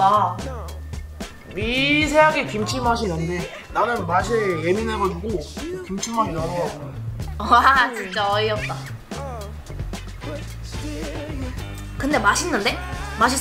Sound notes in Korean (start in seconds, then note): 7.8 웃음